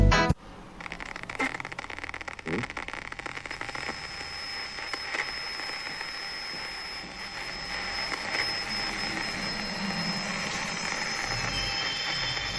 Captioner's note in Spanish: Sonido de estática